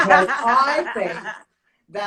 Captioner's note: laughs